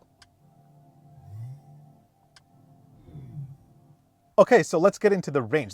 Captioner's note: engine revving